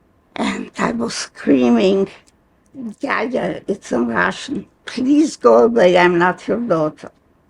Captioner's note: some words in Russian